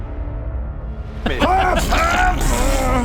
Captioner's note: HAAARRRGH...pbffffft